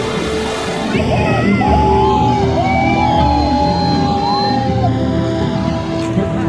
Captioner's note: cheering